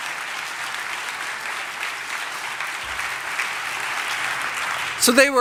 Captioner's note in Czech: Potlesk